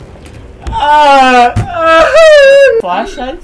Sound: floor breaks; screams and crys

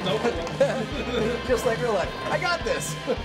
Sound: laughs

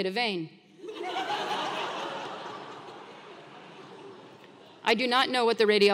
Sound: laugh

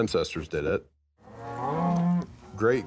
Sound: cows bellowing

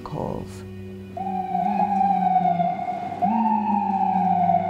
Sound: siren wails

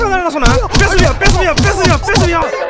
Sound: bang.. Bang… Bang

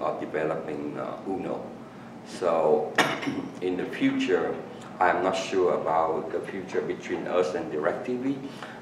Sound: coughs

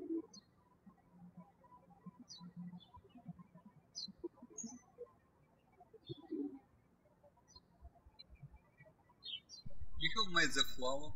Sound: birds chirping

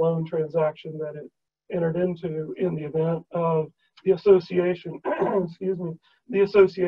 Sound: cough

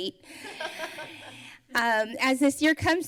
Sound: laughter

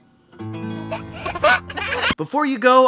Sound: laughing

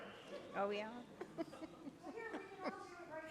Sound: audience members laughs

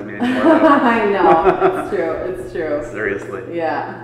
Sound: laughing

